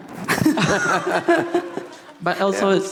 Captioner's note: audience laughing